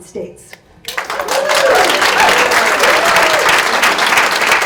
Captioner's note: audience cheers